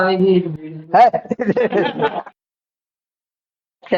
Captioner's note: laughs